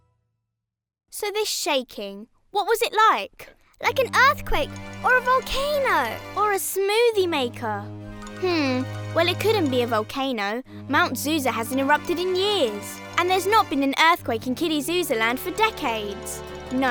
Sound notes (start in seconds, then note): none